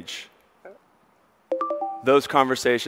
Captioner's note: notification dings